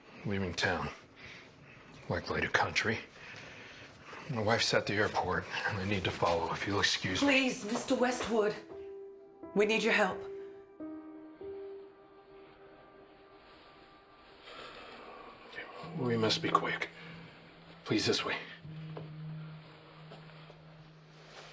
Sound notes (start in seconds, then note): 8.8 mysterious music; 14.4 sighs